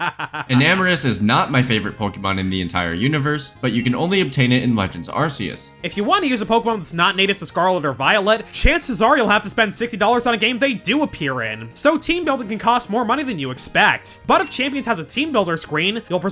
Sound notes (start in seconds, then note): 0.0 laughs